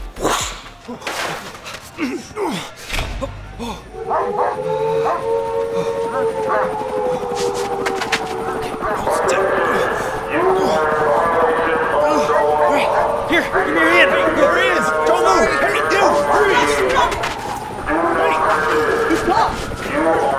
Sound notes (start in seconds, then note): 1.4 Zach breathing heavily; 3.6 airplane engine revving; 4.6 alarms wailing; 4.6 dogs barking